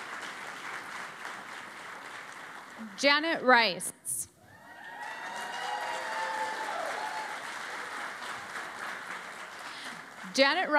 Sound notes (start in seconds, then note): 0.0 applause; 4.4 cheering and Applause